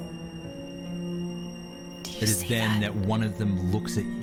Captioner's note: whisper